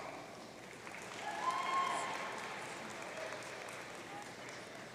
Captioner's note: audience cheering